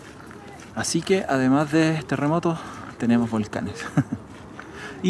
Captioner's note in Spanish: risas